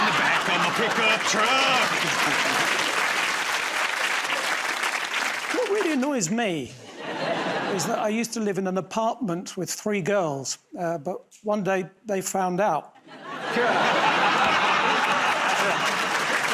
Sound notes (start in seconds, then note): 3.3 applause; 13.0 laughter